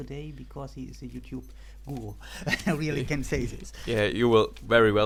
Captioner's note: laughter